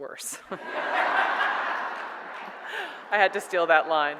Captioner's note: audience laughs